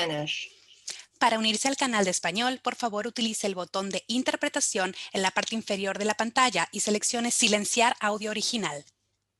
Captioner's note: speaking spanish